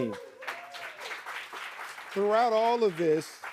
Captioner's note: audience cheering